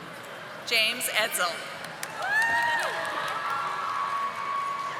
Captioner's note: audience applauding